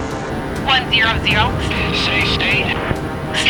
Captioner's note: voiceover